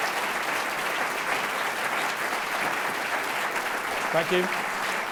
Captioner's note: audience clapping